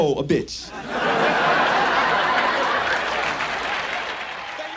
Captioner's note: audience laughs